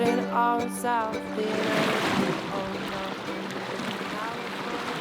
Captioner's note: breaking waves